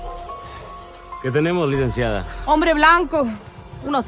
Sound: mexican accent

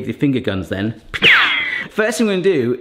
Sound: ricochet sounds

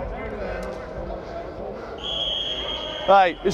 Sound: whistle blows

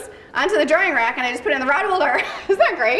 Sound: laughs

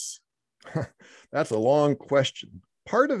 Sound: chuckles

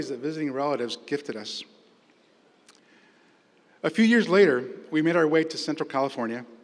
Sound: none

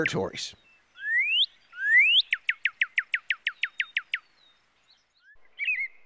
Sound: northern cardinal sounds

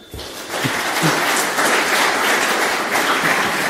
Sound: audience applause

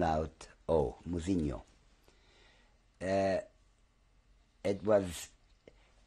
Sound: pauses for 3 seconds

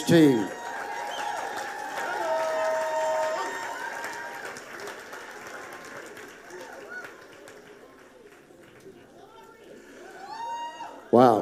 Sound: congregation cheering

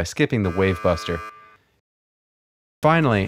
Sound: buzzer buzzes

